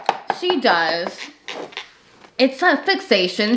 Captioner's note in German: Tasse klopft auf den Tisch